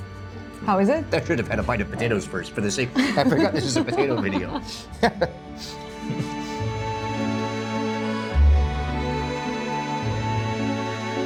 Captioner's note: laughing